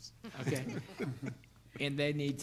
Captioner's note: board laughing